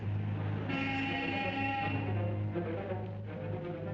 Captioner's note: car honks